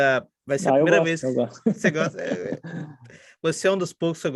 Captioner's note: laughs